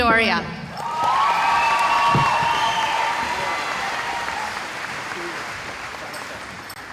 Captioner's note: cheering